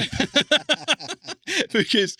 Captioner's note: laughs